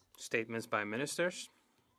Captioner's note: speaking French